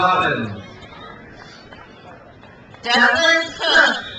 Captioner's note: crowd applauds